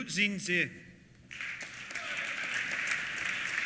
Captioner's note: applause